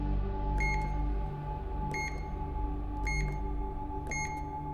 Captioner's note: beeping